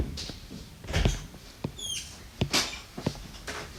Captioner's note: door opening